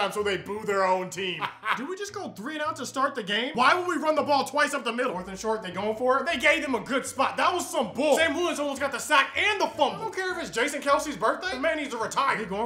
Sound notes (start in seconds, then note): 1.3 laughs